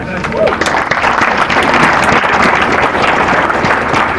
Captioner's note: applause